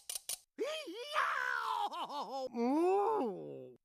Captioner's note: crying; muffled groaning